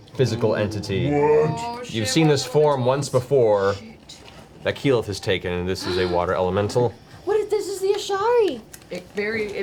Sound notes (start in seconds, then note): 6.3 gasps